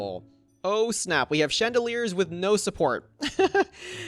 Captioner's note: laughs